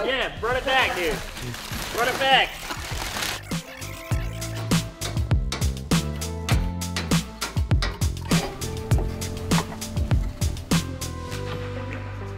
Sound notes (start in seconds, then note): 2.8 video rewinding; 5.8 calm, upbeat music